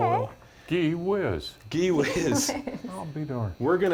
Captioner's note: laughter